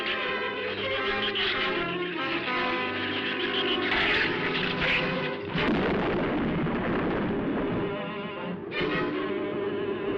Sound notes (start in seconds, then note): 5.5 thunder